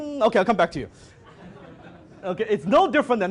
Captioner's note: audience laughs